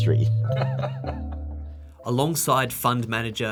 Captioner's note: interviewers chuckling